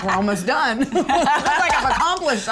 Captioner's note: laughter